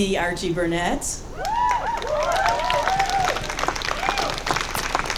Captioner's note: audience cheering